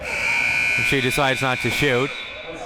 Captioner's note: buzzer sounding